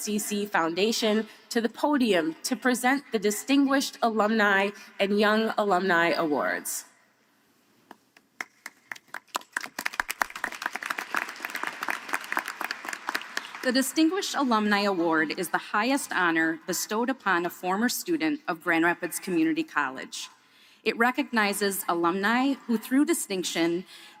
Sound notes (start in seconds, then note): 14.2 applause